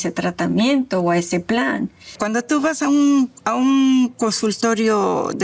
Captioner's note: speaking Spanish